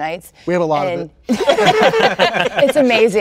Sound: all laughing

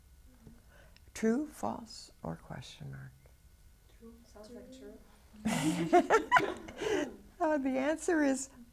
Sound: laughs

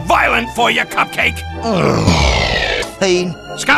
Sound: pitch sliding down

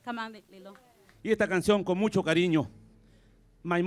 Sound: speaking spanish

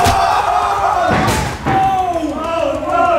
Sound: loud thud

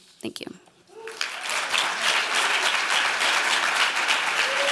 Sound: applause

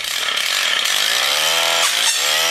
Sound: sawing noise

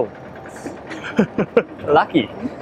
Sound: chuckles

